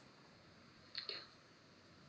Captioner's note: tearful